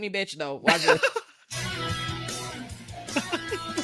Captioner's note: laughing